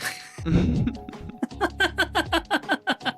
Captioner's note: laughs